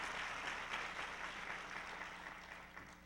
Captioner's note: applause